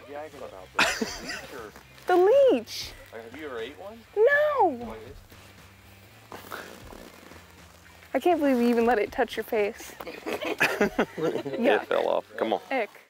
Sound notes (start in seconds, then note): 0.0 retching; 6.4 upbeat rock music; 10.0 laughing